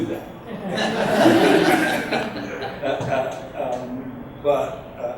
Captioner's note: audience laughs